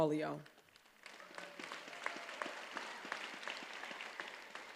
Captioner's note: attendees applauding